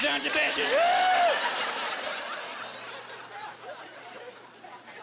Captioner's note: laughing